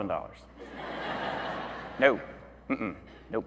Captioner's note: audience laughing